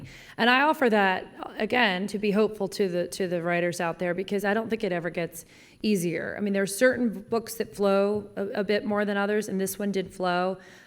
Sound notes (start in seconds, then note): none